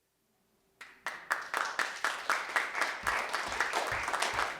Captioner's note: applause